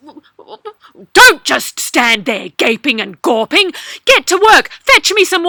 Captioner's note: nasty Princess voice